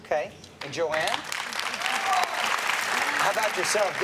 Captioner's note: audience applauds